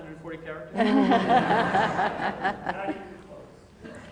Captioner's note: laughter